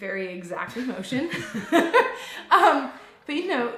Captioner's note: laughs